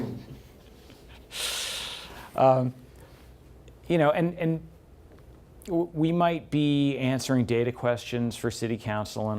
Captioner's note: laughs